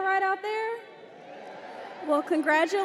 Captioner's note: crowd